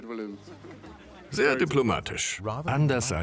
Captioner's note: laughing; voiceover